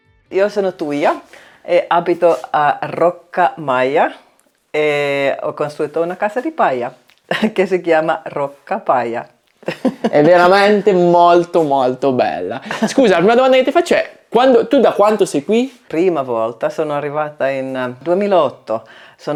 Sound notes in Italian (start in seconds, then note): 9.6 risate